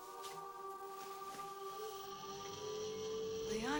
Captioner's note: mechanical Whirring